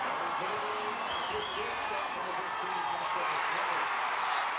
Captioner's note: crowd cheers